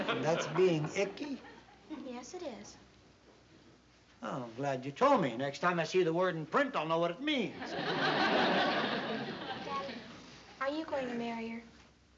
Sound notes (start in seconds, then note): 7.5 laughter